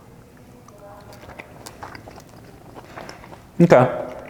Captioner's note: steak crunching